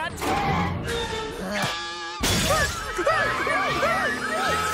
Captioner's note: yelping